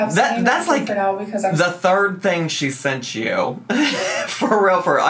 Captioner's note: laughs